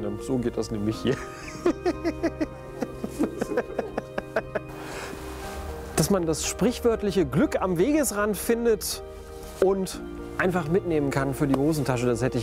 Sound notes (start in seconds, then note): 1.1 he laughs